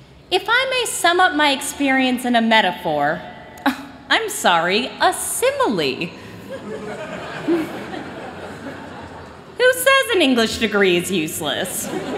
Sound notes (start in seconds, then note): 6.4 laughter